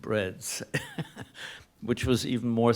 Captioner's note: laughs